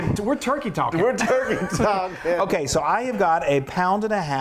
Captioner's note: laughs